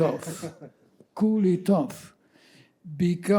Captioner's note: laughing